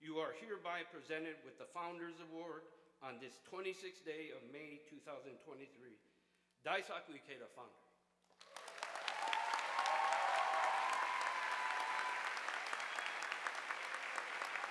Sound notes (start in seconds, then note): 8.3 audience applauding